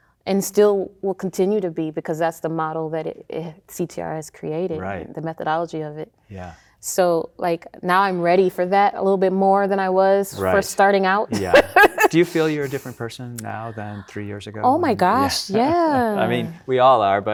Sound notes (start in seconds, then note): 11.3 laughing